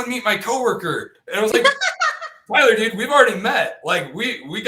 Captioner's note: laughter